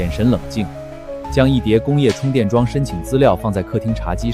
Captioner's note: thud